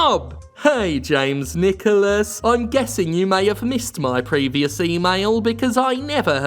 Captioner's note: even-tone mimicking voice